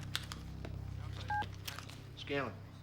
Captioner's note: phone ringing; phone beeping